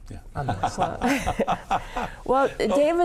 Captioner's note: laughing